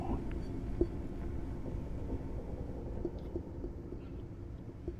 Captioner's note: faint tapping continues